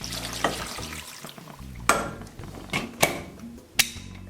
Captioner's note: broth sloshing